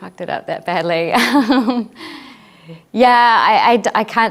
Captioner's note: laughs